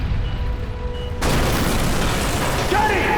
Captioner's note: crash